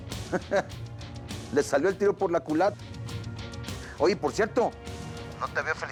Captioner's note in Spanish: risas